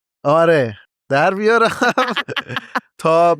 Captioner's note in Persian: خنده